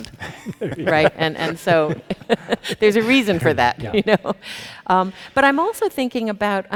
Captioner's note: chuckles